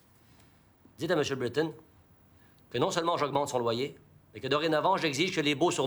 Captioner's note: Rene speaking in foreign language